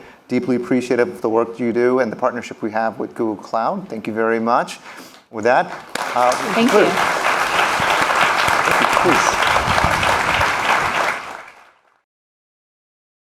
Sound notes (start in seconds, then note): 7.7 applause